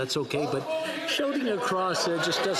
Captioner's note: laughter